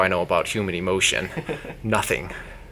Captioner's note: laughs